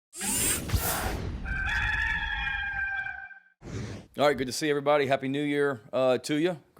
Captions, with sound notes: (electronic whirring) (rooster crowing) - All right, good to see everybody. Happy new year to ya.